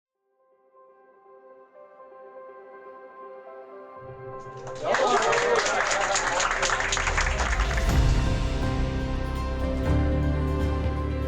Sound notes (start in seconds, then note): 2.6 bright music; 4.4 group applauding; 8.2 inspiring music